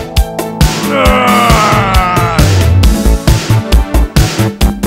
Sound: growling

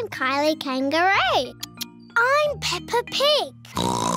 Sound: oinks

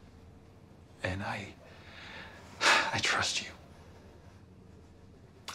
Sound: sighs

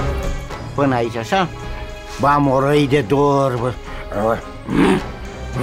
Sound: speaking in foreign language

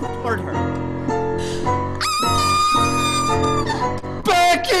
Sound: Becky screams

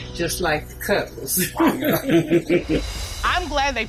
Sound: both laugh

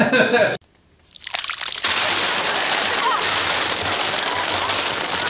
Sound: slime splatters

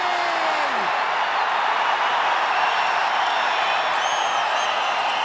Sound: cheering continues

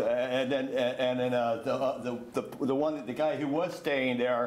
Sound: stammers

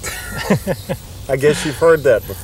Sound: huell laughs

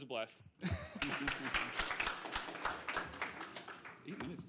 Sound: applause

